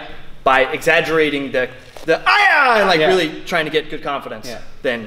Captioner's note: kiai call